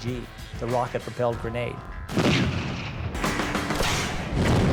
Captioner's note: sounds of battle